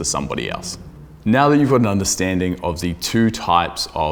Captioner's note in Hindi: गूंज स्पीकर को डुबो देता है